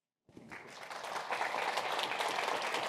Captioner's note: applause